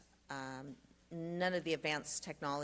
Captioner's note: Spanish